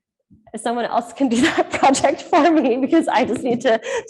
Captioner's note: laughing